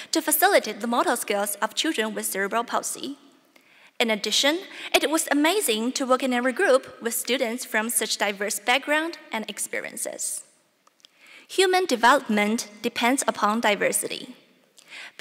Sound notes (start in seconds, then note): none